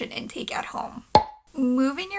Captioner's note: pop